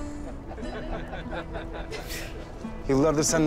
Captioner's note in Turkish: Gülüşmeler